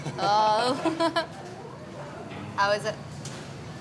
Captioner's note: laughter